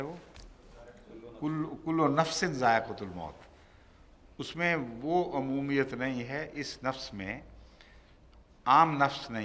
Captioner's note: Arabic